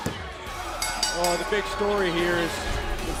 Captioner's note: bell ringing